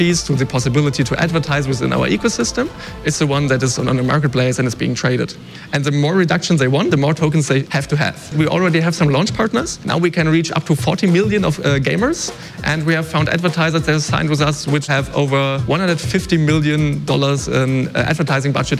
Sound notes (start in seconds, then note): none